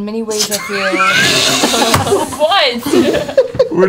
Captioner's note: laughing